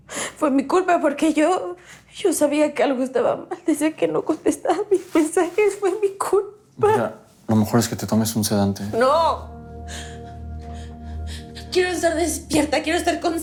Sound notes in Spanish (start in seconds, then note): 10.4 Sollozos